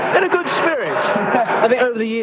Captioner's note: audience laughs